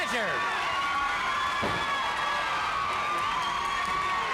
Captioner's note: crowd cheering